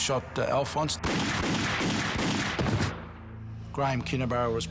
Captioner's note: gunfire